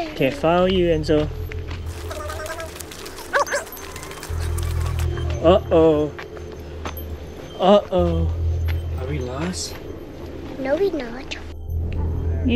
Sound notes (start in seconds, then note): 1.9 fast forward playing; 4.8 mysterious music